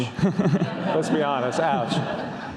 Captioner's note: audience laughs